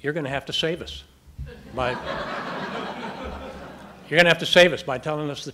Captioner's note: audience laughing